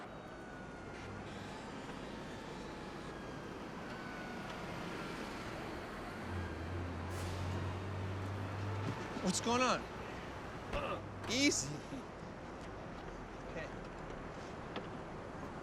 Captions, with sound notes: - What's goin' on? (grunts) Easy!